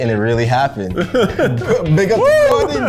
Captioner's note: laughs